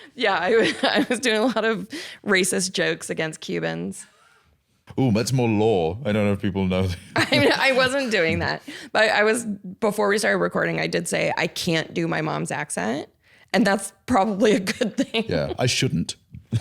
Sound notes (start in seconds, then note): 6.9 laughs